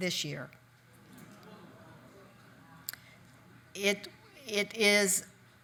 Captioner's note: audience chatter